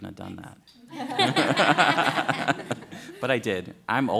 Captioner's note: laughter